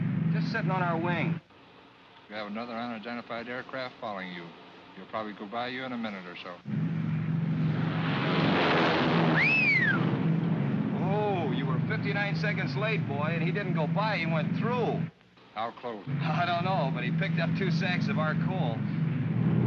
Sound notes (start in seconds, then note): 6.7 aircraft zooms; 9.3 Lieutenant whistles